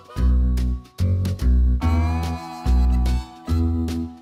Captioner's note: truck horn